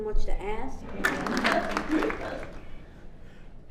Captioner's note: audience applauds